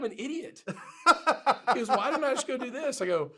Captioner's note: laughs